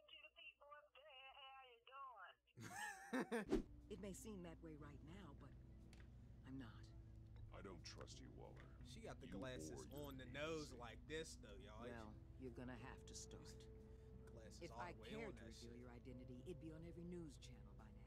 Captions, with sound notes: - Hey to the people what's good how ya' doin'? (laughing) - It may seem that way right now but, I'm not. - I don't trust you Waller. - She got the glasses on the nose like this though ya'll. - You're gonna have to start. - Glasses all the way on that shit. - If I cared to reveal your identity